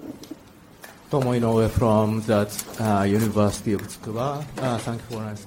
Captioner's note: speaks foreign language